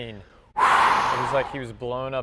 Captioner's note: whooshes